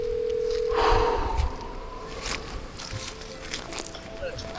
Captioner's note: exhales